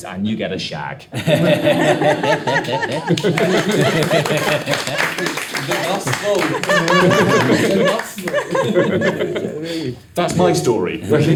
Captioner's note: all laughing, clapping